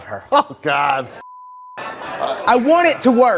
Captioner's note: beep